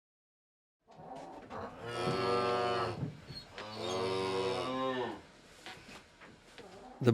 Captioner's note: cows Mooing